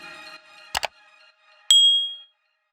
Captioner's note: loud click; bell rings